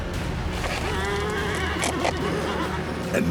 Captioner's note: horse whinnies